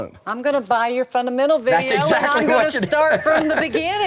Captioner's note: laughs